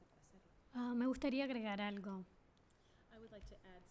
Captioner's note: speaking spanish